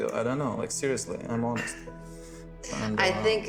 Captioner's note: enchanted music; chuckling